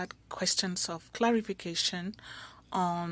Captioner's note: speaking French